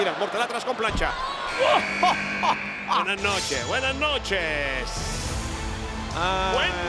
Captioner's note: laugh